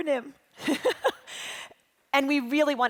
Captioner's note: laughing